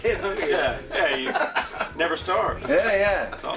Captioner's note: laughs